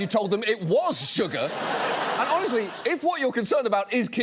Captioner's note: studio audience laughs